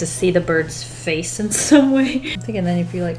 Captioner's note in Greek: Γέλια